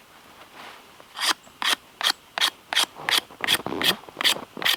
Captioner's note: loud scraping